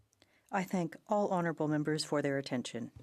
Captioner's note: speaking French